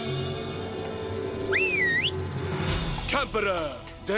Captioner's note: whistle